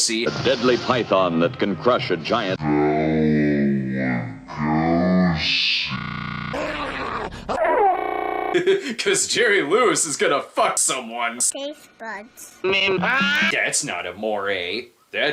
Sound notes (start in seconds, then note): 2.5 Cinema Snob, slowed down; 6.5 dog snarling and barking; 7.5 glitchy monophonic noise